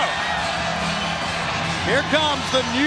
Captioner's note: crowd cheering